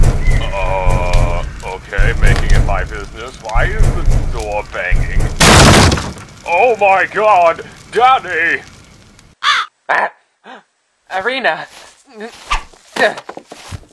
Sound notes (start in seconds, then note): 10.4 gasp